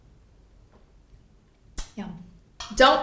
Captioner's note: smacks lips